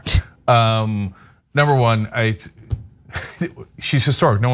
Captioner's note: laugh